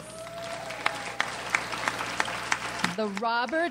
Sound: audience applauds

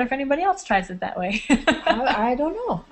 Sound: laughing

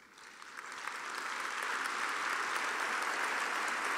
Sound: audience applauding

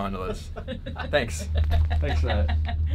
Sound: laughing

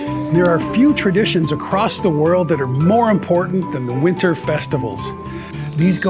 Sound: Whiskers gasps

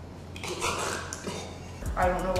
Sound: gagging

